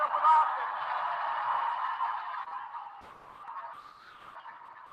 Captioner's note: audience applauding